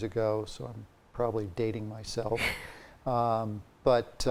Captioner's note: chuckles